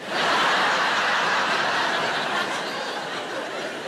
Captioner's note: audience laughs